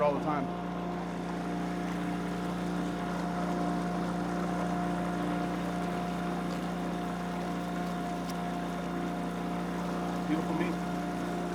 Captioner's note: boat engine running